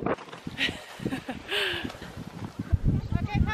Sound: laughing

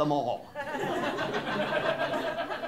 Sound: laughter

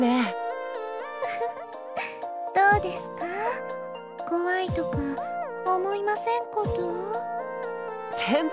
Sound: giggle

